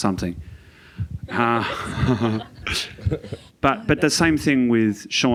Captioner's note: all laughing